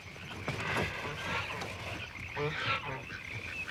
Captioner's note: grunting and quacking